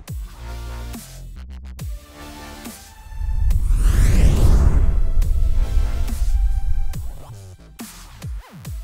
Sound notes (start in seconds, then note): 2.9 whooshing